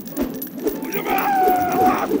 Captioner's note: screaming